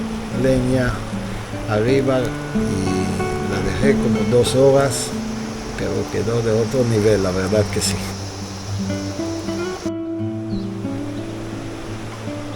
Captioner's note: laughs